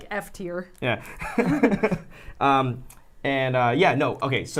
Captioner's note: laughs